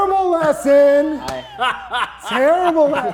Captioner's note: laughing